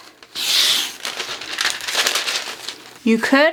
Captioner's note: loud sound of paper